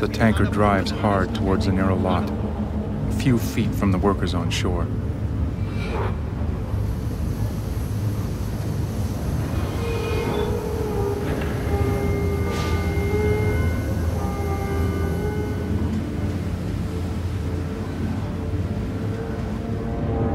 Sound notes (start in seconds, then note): 8.3 eerie metallic scraping